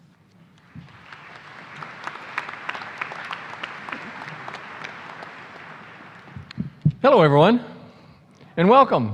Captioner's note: applause